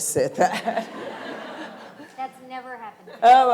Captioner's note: laughter